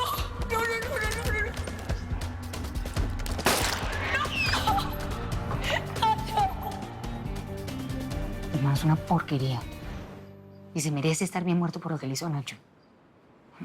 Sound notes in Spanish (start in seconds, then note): 3.3 Disparo; 4.0 Gritos